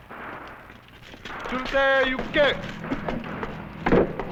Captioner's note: non-english speech